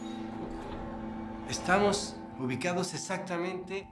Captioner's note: speaking Spanish